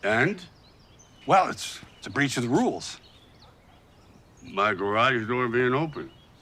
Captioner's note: none